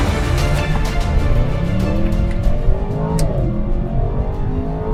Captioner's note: car engine revs